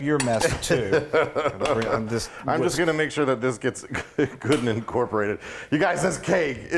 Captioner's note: laugh